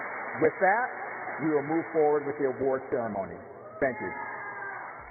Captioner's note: cheers and applause